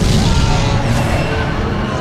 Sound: screams

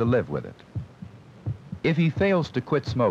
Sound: heartbeat sound

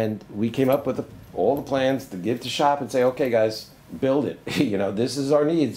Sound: laughs

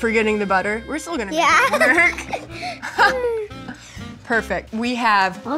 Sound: laughs

